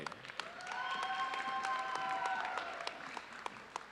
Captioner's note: audience cheering